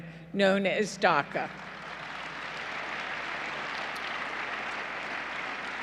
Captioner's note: applause